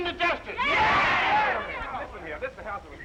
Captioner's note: all chattering